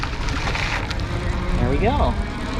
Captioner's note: bicycles electric motor roaring